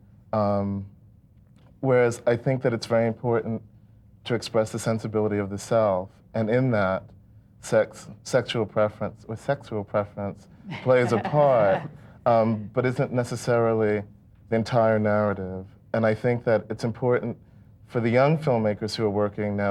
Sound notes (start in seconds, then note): 10.6 laughs